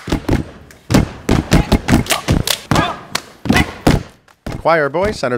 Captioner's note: steps; claps